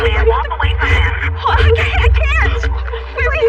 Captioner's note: sobbing